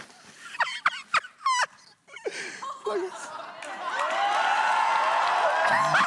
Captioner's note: cheers; laughs; laughter